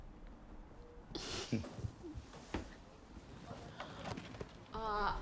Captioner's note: both chuckle